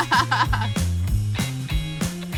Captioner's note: laughs; 1950s rock music